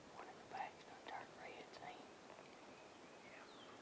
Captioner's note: whispered